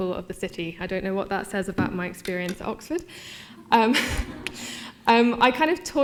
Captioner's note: laughter